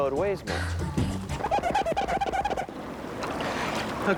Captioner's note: squeaking